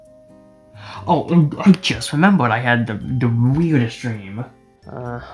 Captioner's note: breaths in, surprised